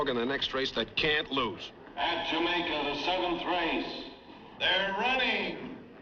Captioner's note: man On P.A